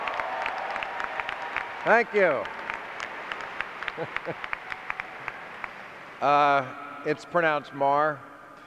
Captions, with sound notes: Thank you. (chuckles) It's pronounced mar.